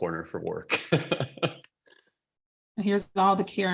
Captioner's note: laughing